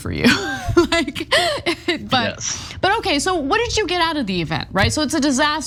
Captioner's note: laugh